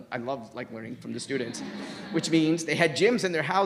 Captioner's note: crowd laughs